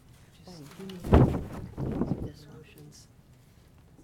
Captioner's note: microphone interfering